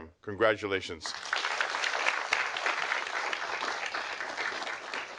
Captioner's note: audience applauding